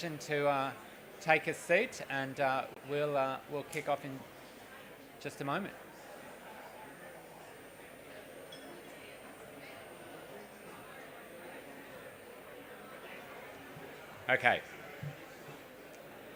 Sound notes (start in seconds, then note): 8.2 background chatter